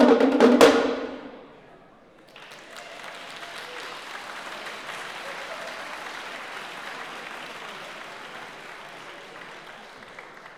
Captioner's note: applause